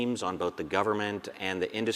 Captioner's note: none